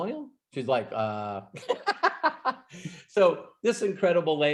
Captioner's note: laughs